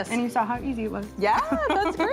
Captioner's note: chuckles